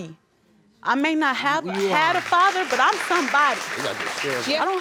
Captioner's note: audience applauds